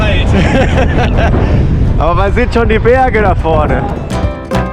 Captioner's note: laughter